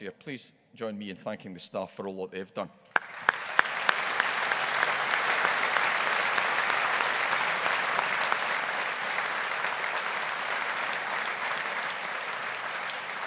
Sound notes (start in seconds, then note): 3.3 audience applauding